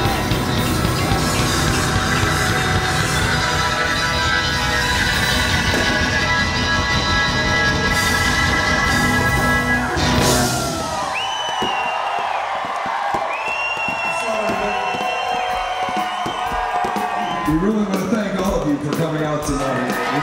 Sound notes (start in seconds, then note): 11.0 crowd cheering wildly; 11.5 fireworks popping